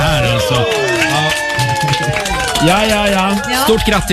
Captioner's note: cheering